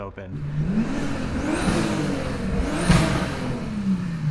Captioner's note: car engine revving